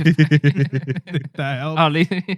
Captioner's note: laughter